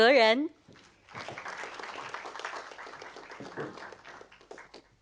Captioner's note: audience applauding